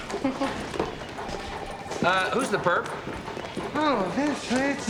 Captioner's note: laughs